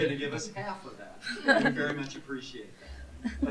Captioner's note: laughter